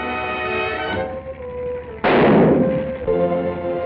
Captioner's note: gunshot